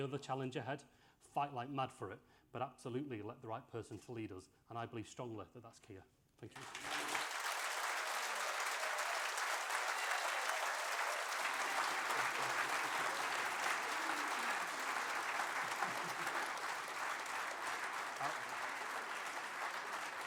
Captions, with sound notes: My son is 18 today, he was in primary school when there was the last Labour government. I don't want him to send his kids to primary school before we see the next Labour government. Understand the scale of the challenge ahead, fight like mad for it, but absolutely elect the right person to lead us and I believe strongly that that is Keir. Thank you. (APPLAUSE)